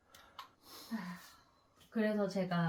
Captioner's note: sighs